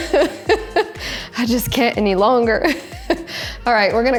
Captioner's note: laughs; laughs